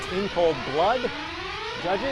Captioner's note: siren